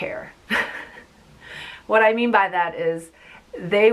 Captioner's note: laughs